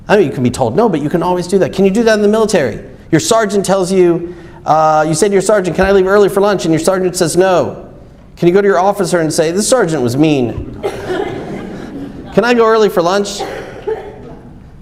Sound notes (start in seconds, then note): 10.6 audience laughs